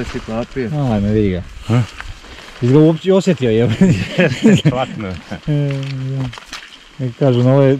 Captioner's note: exclamation